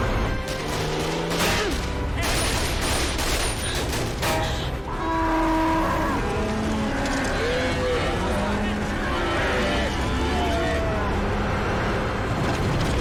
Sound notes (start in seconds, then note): 0.4 gunfire; 4.8 cows bellow